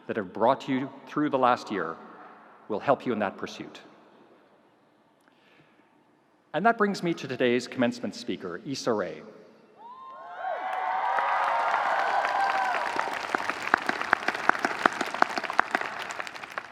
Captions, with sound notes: that have brought you through the last year will help you in that pursuit. And that brings me to today's Commencement speaker, Issa Rae. (audience cheering) (audience applauding)